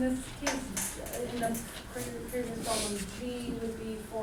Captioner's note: voiceover